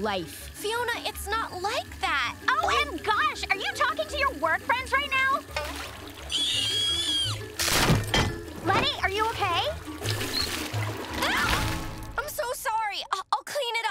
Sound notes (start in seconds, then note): 6.3 screaming; 11.2 shrieking